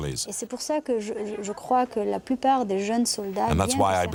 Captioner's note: French spoken audio